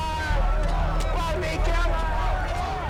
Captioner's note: crowd continues clamoring